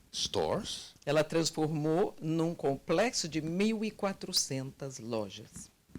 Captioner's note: translator speaking Portuguese